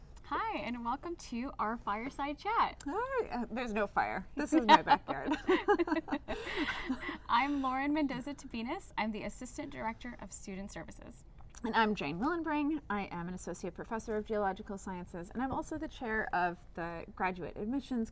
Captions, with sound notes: Hi, and welcome to our fireside chat. Hi. There's no fire. This is my backyard. [LAUGHTER] I'm Lauren Mendoza-Tabinas. I'm the assistant director of Student Services. And I'm Jane Willenbring. I am an associate professor of geological sciences, and I'm also the chair of the graduate admissions